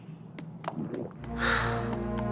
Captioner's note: gulp and sigh